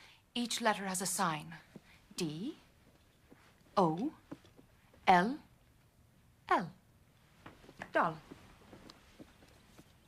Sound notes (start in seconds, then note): none